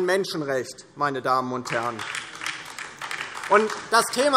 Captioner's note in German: Beifall DIE LINKE